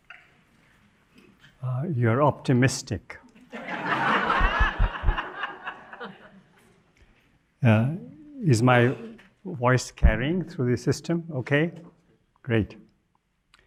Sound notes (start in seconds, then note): 8.8 audience chuckles